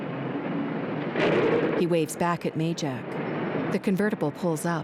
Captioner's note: traffic din